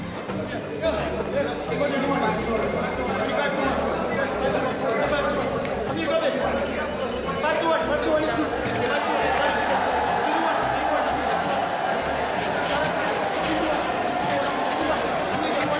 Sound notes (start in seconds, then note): 0.0 men shouting and telephones ringing; 11.9 crowd roars and barrier clinking